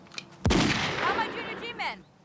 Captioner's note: gunshot blasting